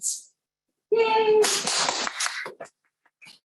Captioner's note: applause